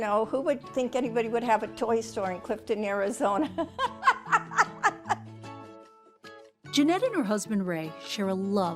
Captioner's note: laughs